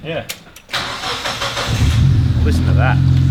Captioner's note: engine turns over and starts